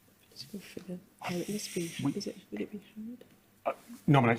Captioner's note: muttering